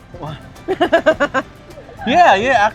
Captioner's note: laughs